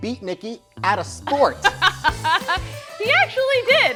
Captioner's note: laughs